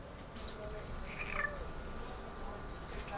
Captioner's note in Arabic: مواء قط